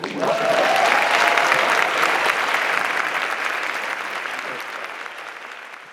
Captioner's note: applause